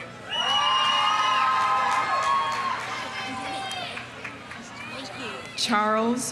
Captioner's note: audience cheering; audience applauding